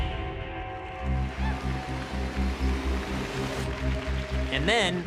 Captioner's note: cheering